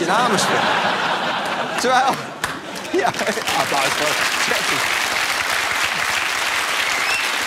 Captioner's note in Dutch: applaus